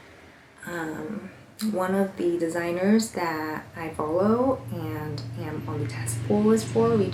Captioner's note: passing vehicle noise